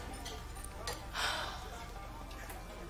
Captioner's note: sighs